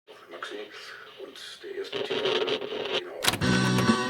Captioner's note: radio static